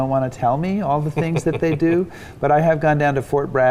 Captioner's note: chuckling